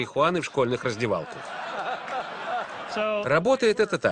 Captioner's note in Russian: Смех в зале